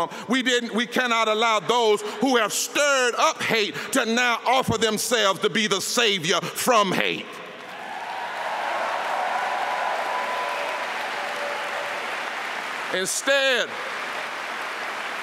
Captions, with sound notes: STIRRED HATE -- LET ME JUST SAY THIS QUIETLY, YOU ALL DIDN'T HEAR IT. MR. TRUMP. WE CANNOT ALLOW THOSE WHO HAVE STIRED UP HATE TO NOW OFFER THEMSELVES TO BE THE SAVIOR FROM HATE. [APPLAUSE]